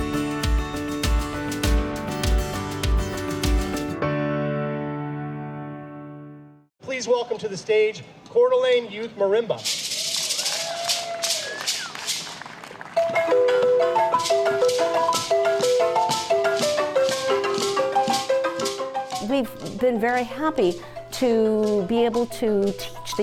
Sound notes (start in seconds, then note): 9.9 cheers and applause; 11.5 maracas rattle; 13.0 xylophone music